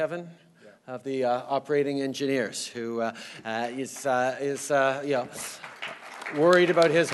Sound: applause

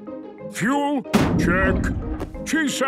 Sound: bangs

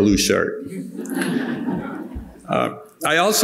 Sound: audience laughing

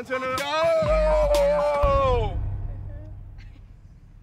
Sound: shouting

